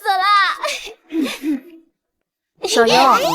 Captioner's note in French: Tousse